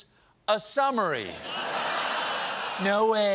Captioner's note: laughter